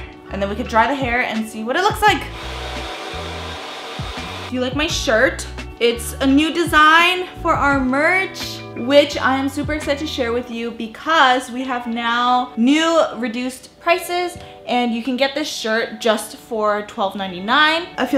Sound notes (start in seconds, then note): 2.0 hairdryer blowing